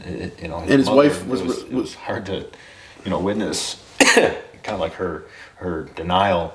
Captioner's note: coughs